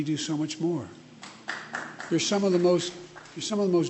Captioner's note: applause